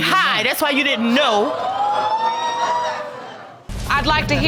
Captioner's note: audience exclaiming